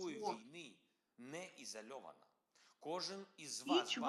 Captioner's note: Volodymyr speaking in foreign language